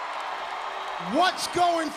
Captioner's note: crowd cheering